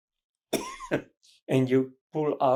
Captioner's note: coughing